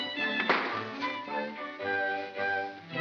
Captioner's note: bang; whimsical music